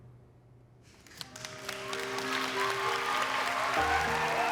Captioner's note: cheering and clapping